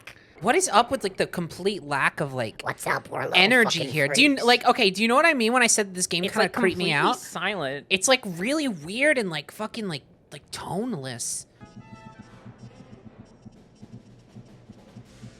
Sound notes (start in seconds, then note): 2.8 gremlin voice